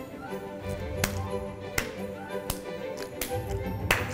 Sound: clapping

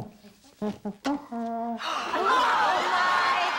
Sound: gasps

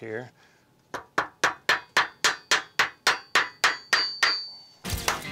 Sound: hammering

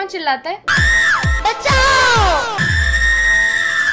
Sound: screams

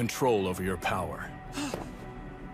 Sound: Deku gasps

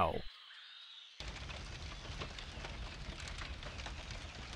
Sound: fire blazing

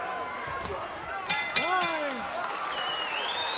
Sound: bell rings

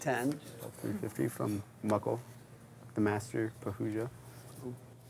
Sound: voiceover

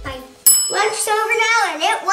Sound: bell resounding

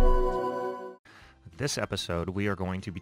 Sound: voiceover

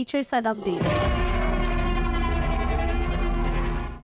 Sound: dinosaur growls

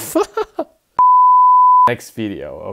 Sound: laughs; beeps

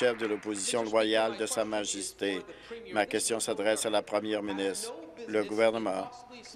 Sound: applause

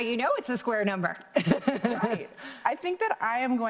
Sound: laughing

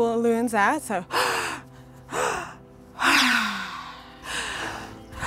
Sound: inhaling and exhaling

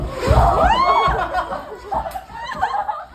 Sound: laughing hard

